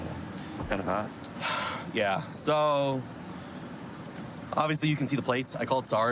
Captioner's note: sighs